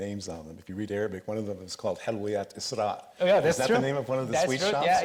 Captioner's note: speaks Arabic